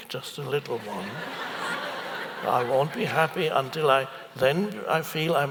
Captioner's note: audience laughs